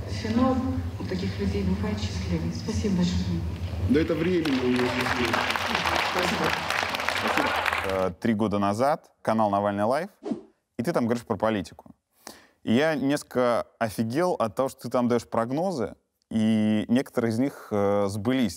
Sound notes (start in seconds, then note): 4.0 applause